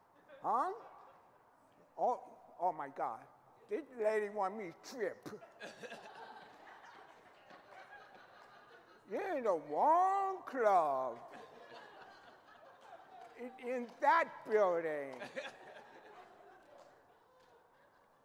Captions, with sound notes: Oh my God. This lady want me to strip. (audience laughing) You in the wrong club. It's that building.